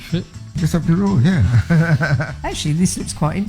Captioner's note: laughs